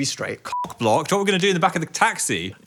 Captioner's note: beeps